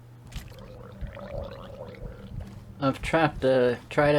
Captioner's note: water gurgles